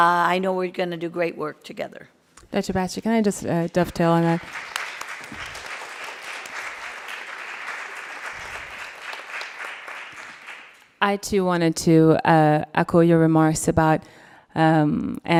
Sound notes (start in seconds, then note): 3.6 applauding